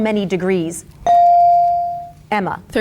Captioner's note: bell dings